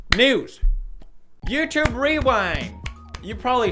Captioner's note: weak clapping